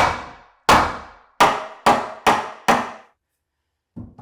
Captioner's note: hammer pounding